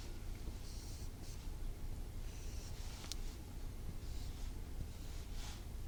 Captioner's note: writing sound